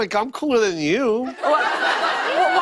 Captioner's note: laughter